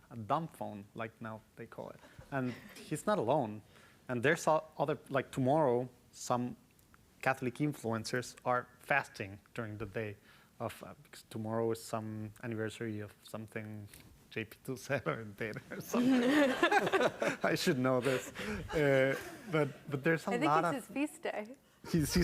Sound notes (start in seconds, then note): 15.7 audience laughs